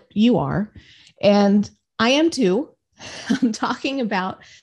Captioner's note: laughs